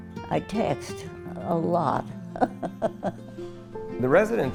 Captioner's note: laughs